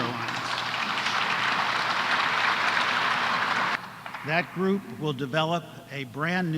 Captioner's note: applause